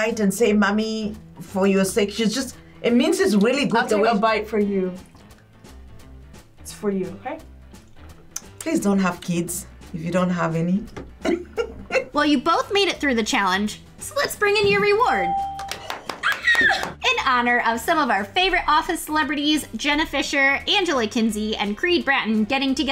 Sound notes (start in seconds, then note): 11.2 laughs; 15.1 bell rings; 16.2 screams